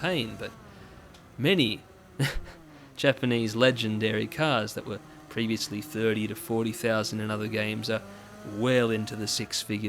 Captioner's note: laughing at the mad economy